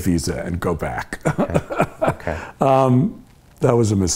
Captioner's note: laughing